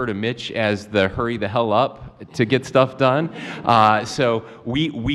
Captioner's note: laughter